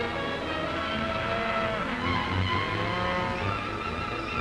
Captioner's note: cattle mooing; dramatic music